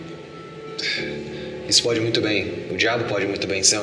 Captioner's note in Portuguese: suspiro